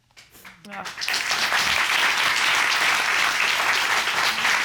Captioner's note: applause